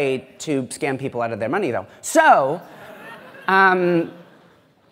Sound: laughter

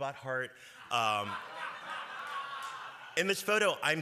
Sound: laughter

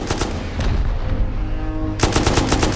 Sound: boom

